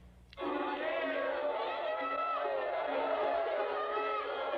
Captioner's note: shouting, Chattering